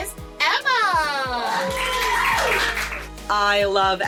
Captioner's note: cheering